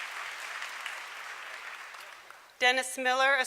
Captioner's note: applause